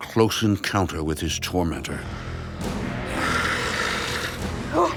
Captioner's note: snarling